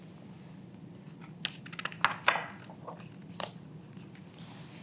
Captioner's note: pages rustling